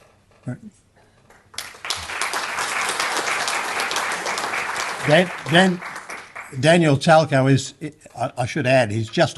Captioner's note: clapping